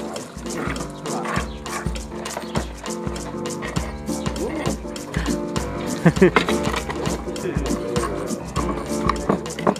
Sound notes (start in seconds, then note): 4.4 camera operator laughing